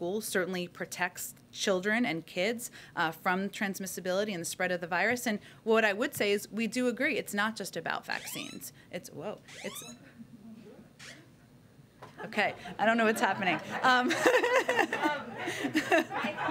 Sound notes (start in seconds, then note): 8.1 phone sounds; 13.0 laughter; 13.1 laughs